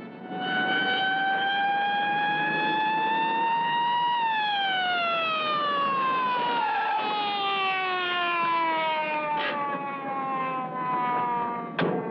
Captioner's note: police sirens